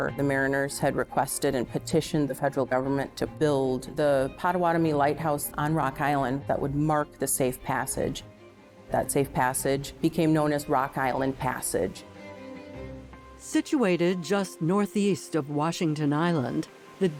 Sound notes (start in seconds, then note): none